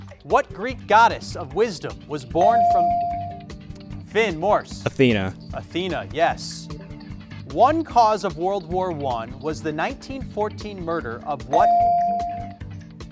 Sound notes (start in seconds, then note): 2.5 bell rings; 11.6 bell rings